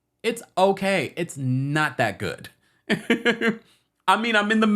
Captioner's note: laughing